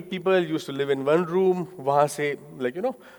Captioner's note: speaking in foreign language